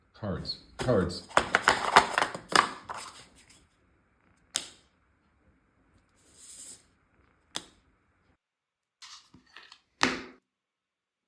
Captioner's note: heavy card related sounds